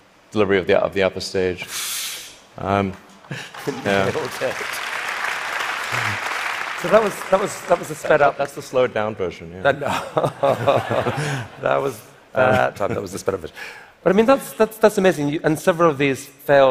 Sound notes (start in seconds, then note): 3.2 applause; 9.7 laughter